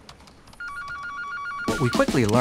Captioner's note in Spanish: teléfono sonando